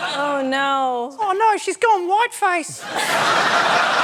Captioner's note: falsetto; laughter